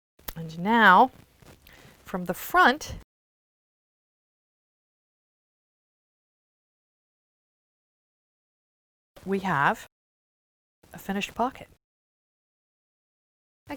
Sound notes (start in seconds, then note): 3.0 no Sound Present; 11.7 no Sound Present